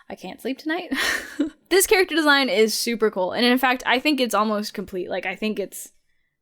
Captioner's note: chuckles